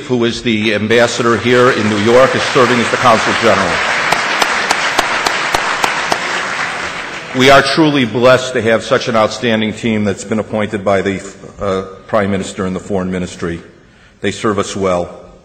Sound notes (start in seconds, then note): 4.0 audience applause